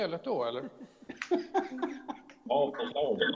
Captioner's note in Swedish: Skratt